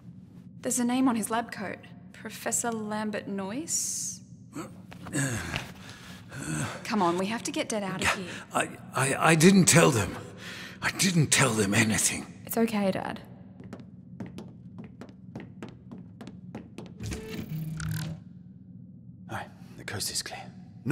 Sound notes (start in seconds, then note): 13.4 footsteps; 16.8 door opens